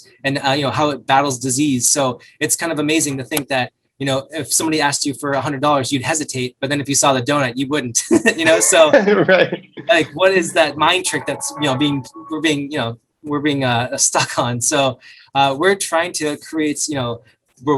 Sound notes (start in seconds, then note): 8.0 both men laugh